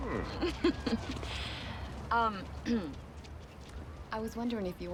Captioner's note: laughs; clears throat